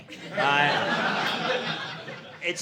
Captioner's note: audience laughing